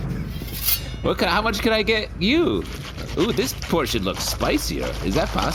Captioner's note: knife shing